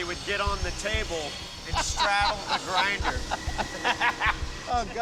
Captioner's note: laughing